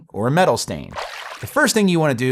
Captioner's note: water splashing